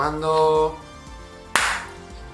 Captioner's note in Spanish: aplauso